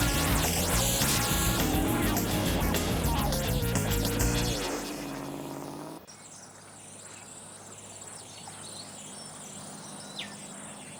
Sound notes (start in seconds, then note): 6.3 birds chirping